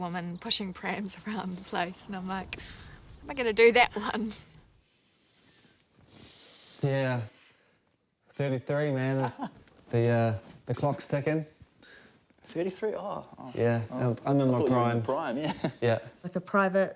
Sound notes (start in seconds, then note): 9.0 laughter